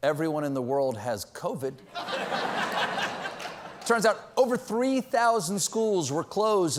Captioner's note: laughter